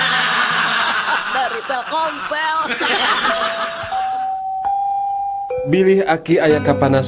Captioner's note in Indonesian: tertawa